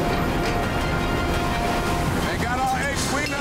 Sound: urgent music; helicopter rotors thumping

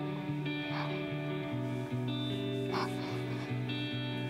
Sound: softly sobbing

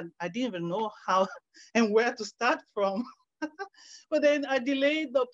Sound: laughs

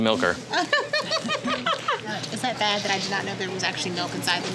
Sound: laughs

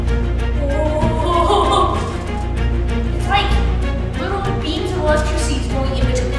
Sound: dramatic music; laughs

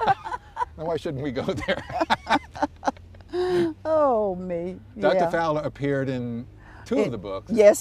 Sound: laughter

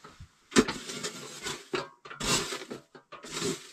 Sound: dirt rustling

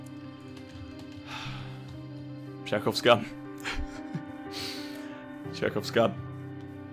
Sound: sighs; laughs

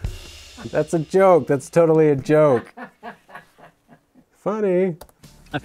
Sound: videographer laughing

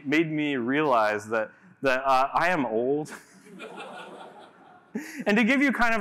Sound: laughter

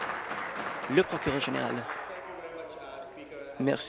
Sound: applause

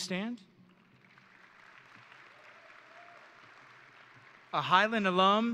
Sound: audience and graduates applauding

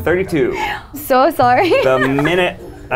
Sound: laughs

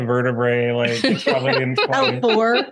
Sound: laughter

